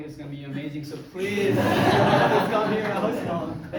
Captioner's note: crowd laughs